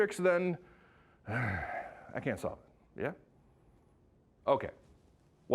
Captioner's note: sighs